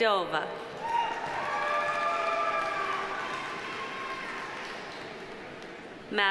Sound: audience applauding; audience cheering

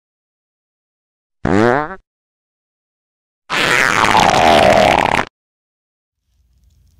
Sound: farting

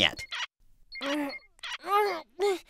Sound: moaning

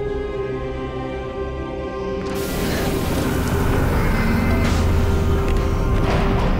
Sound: air blowing; gasping

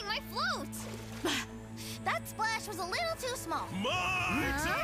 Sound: gasps

